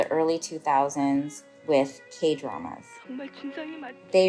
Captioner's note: soundbite of archived recording